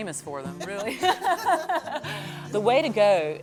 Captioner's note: laughter